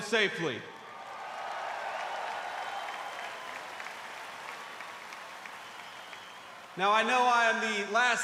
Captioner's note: applause